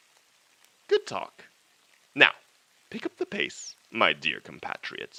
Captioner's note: vocal hissing and distortion stops